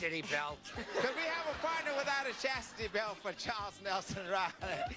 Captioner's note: laughter